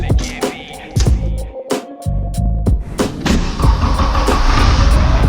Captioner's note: engine starting